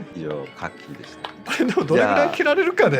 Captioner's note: applause